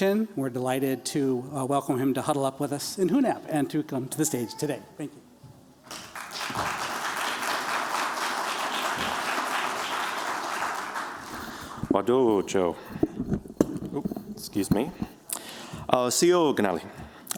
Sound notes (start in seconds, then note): 5.8 applause; 12.1 non-english speech